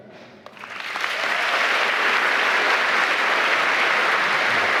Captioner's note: applause